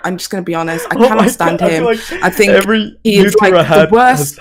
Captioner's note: laughs